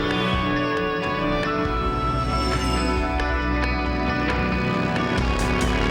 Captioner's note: helicopter blades whirring; sultry music; birds squealing; motorbike rumbling